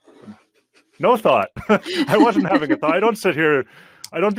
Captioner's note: laughing